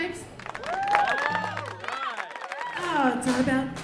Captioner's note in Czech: Uznání. Potlesk